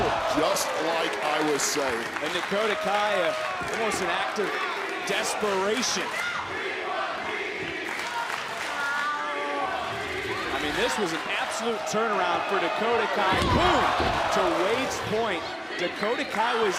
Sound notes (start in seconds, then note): 4.3 crowd chants